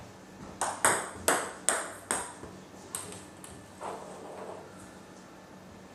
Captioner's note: balls ping pong hitting continues